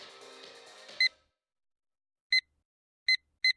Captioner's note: beeping